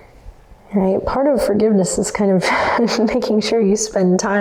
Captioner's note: laughs